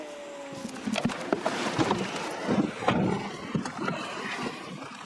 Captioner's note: drone airscrew running sound; car doors closing sound